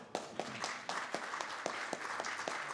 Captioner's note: applause